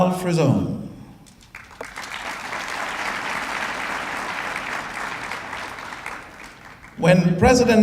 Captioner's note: applause